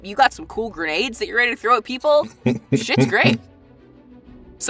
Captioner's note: chuckles